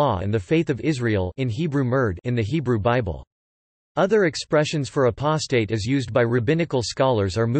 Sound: in Hebrew מרד

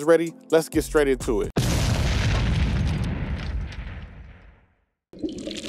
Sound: explosion booming

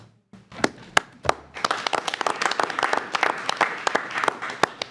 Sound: all applauding

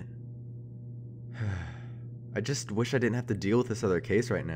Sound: sighs

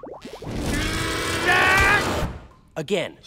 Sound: grunting

